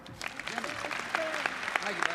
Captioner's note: applause